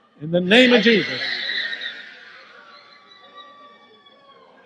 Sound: woman screams

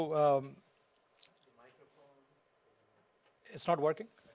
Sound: voiceover

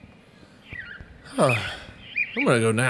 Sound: sigh

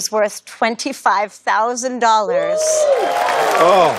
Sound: audience's impressed murmurs

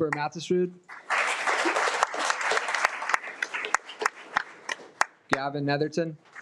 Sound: audience clapping

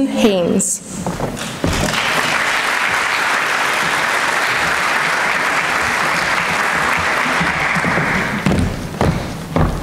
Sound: applause

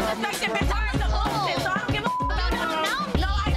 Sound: beep

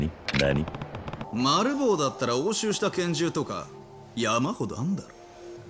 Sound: speaking Japanese

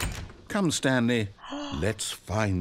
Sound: gasp

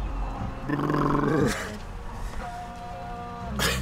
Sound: shivering

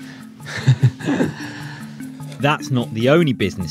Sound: both laugh

